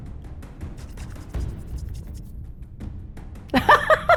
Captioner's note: hands rubbing; players laughing